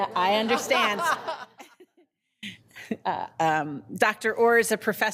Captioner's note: people laughing